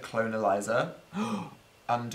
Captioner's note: gasp